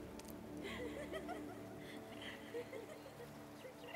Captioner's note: laughing